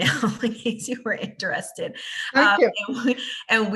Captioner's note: laughs